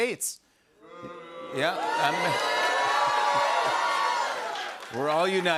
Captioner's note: audience boos